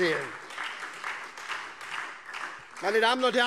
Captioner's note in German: Beifall SPD und vereinzelt Freie Demokraten